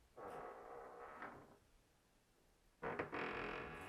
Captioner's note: door creaking